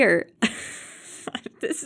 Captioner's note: laugh